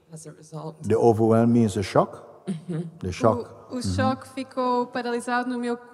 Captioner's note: Q.6 Murmurs agreement